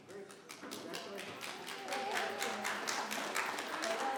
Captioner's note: members clapping